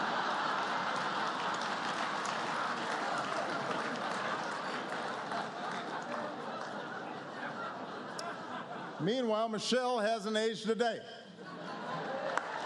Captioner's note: laughter, applause; applause